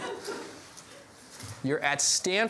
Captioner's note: laughs